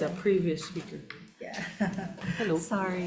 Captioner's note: laughs